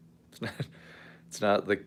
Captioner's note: laughs